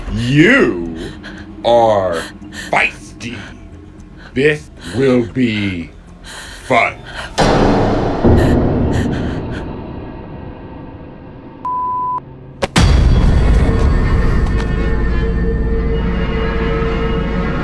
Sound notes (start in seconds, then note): 7.0 Sarah breathing; 7.5 dramatic scary music